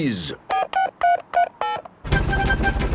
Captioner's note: dialing